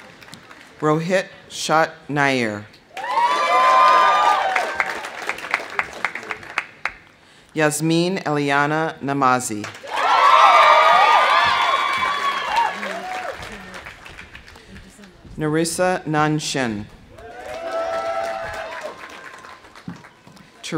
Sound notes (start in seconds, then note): 2.9 audience cheering; 2.9 audience applauding; 9.7 audience applauding; 9.8 audience cheering; 17.1 audience cheering; 17.1 audience applauding